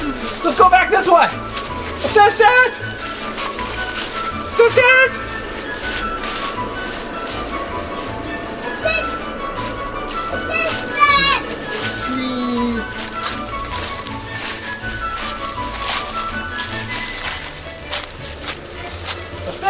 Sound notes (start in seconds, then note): 15.1 crunching